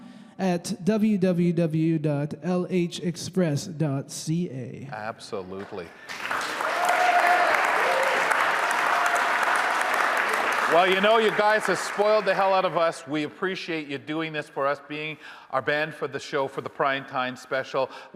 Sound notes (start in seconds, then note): 5.6 audience applauding; 6.1 audience cheering